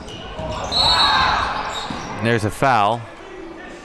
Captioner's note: whistle is blown